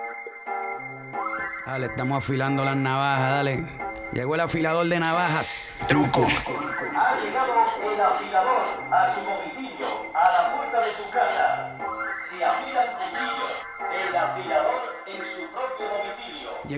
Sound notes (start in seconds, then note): 1.9 rapping in Spanish; 7.2 announcer speaking Spanish